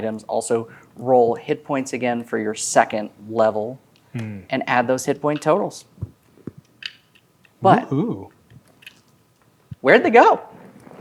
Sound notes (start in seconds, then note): 6.0 dice clattering